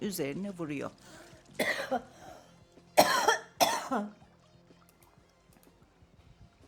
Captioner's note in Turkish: öksürme